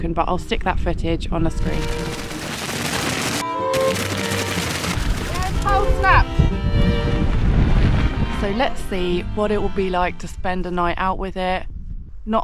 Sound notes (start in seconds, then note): 1.9 wind